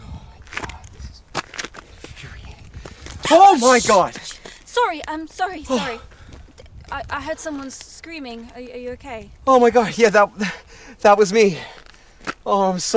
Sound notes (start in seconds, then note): 5.6 woman gasps